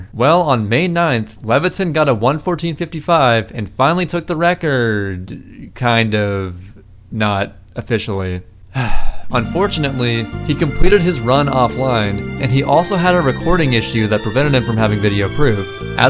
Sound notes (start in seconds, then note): 8.7 sigh